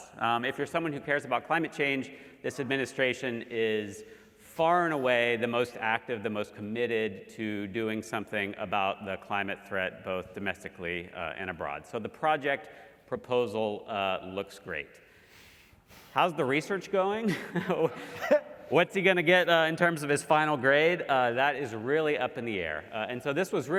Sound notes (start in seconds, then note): 17.3 laugh